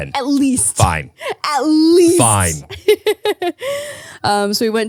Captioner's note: laughs